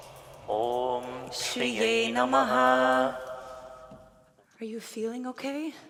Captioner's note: performers chanting in foreign language